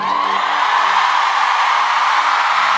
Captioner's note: cheering